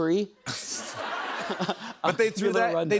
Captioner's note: laughter